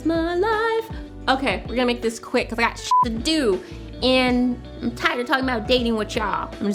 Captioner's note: beep